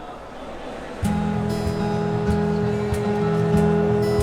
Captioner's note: crowd chattering